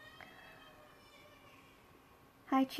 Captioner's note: baby cries in the background